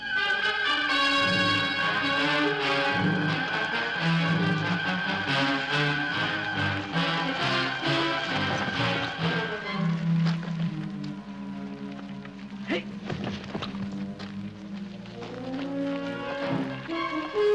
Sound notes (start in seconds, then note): 0.1 intense orchestral music; 12.7 men grunting